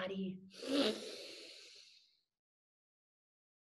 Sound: air inhales

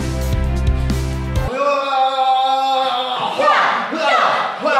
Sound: shouts

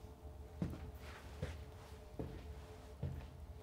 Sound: footsteps recede

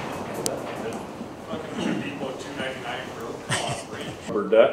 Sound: quiet chattering

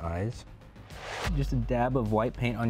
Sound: whoosh

